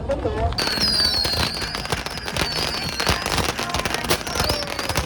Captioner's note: sound of firecrackers exploding